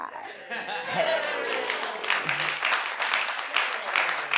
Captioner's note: audience applauds